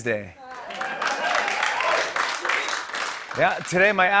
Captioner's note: cheers and applause